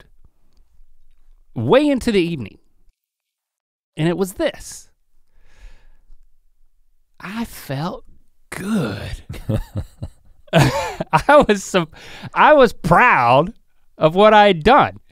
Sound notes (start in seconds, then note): 8.6 chuckles